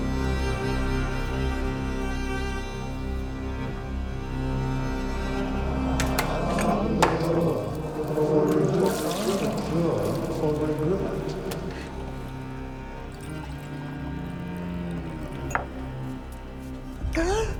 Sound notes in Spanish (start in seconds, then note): 4.7 Jim, haciendo eco